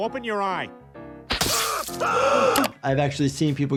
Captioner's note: Joe screaming; gasping